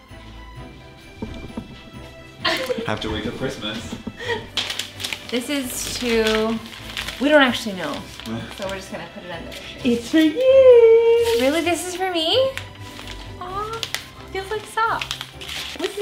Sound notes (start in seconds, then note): 2.4 laughter